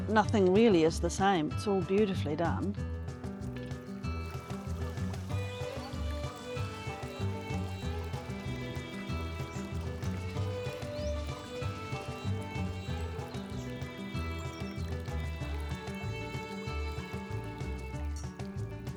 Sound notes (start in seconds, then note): 4.3 ice drink shaking